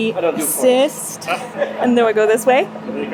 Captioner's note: laughter